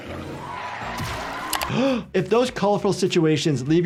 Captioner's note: doctor gasps